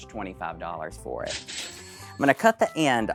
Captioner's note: cash register dinging